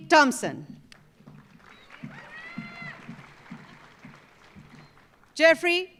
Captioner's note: audience applauding